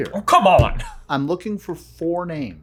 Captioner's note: bangs desk